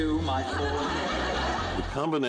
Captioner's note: laughs